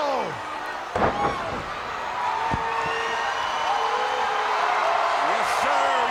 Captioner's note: crowd cheering